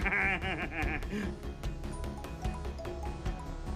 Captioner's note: laughs; cellphone rings